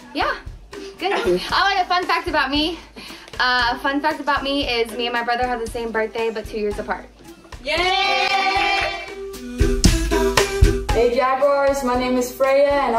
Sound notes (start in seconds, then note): 7.6 people cheering; 9.4 bright upbeat music